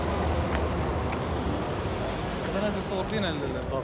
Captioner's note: speaking foreign language